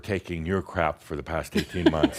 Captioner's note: laughs, audience applause